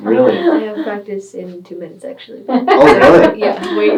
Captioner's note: laughing